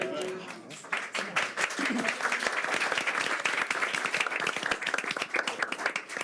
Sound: board members applaud

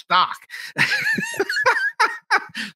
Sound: laughing

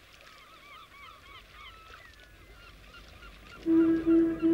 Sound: water splashing; birds cawing; horn blowing

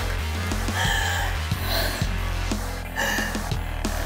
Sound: woman pants

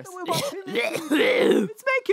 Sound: coughing

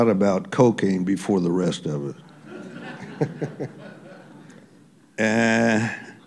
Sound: laughter

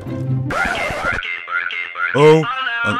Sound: ringtone

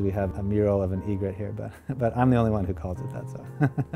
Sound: laughs

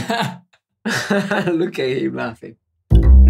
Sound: laughter

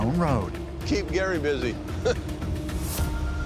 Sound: chuckles

